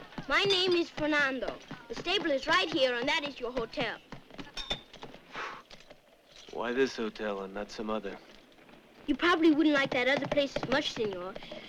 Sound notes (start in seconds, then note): none